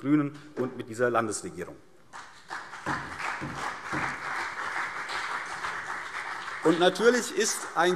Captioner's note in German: Beifall CDU und BÜNDNIS 90/DIE GRÜNEN